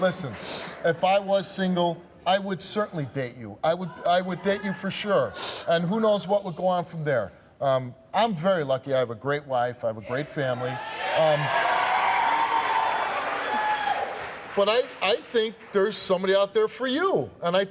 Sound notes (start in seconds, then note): 10.5 audience cheering